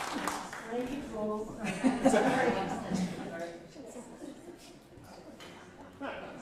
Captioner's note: laughter